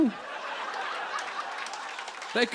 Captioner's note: laughter